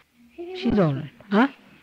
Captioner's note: A small child’s voice is heard